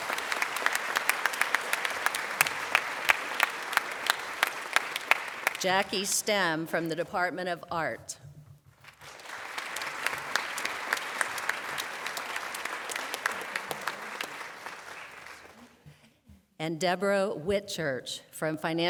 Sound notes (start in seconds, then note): 3.3 applause; 11.2 applause